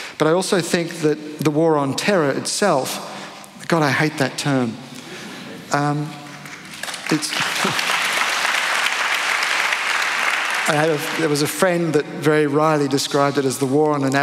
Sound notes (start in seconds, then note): 6.4 applause